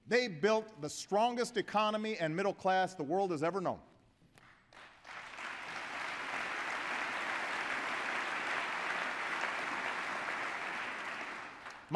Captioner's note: applause